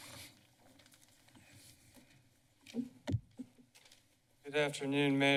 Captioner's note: bacground shuffling noises